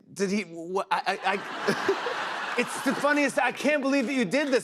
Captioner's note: laughter